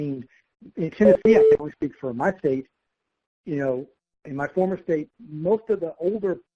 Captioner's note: computer tone